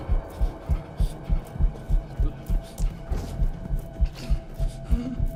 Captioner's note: Father Matthews panting